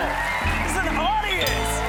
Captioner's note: cheers and applause